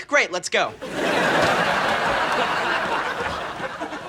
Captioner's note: audience laughing